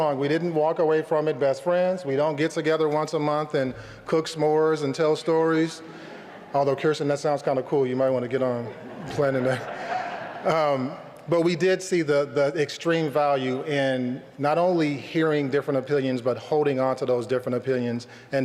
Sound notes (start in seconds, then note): 8.6 laughter